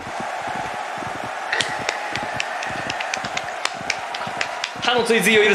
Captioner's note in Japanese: 拍手